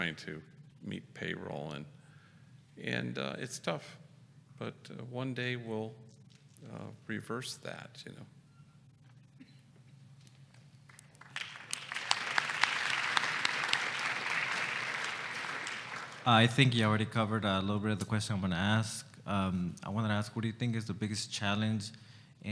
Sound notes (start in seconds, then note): 10.8 applause